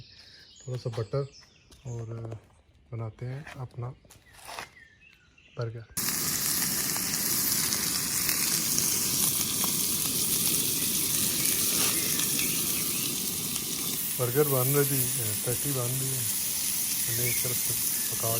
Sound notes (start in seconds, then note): 6.0 sizzling patty....Birds chirping in Background